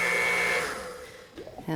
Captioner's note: blender revving